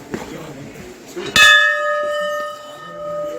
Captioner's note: temple bell sound